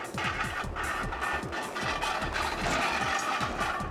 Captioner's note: rims scraping